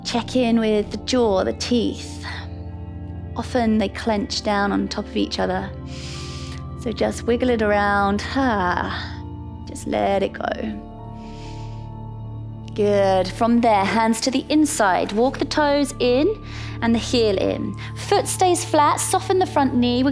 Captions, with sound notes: Check in with the jaw, the teeth. Often they clench down on top of each other. (inhales) So just wiggle it around, ha. Just let it go. (calm music) Good, from there, hands to the inside. Walk the toes in and the heel in. Foot stays flat, soften the front knee.